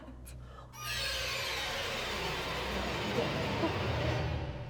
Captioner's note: creature sounds